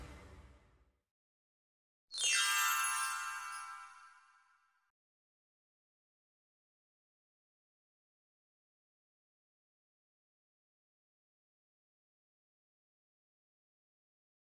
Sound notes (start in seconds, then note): 2.2 chimes jingling